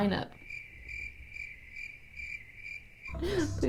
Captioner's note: crickets